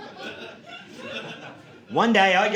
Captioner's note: audience laughing